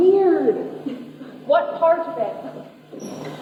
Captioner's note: laughs